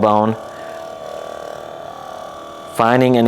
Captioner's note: massage gun buzzes